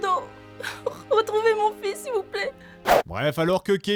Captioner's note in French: sanglottant